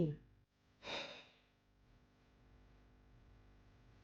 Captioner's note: exhale